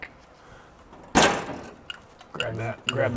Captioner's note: metal clicking